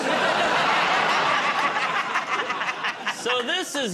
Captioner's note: laughter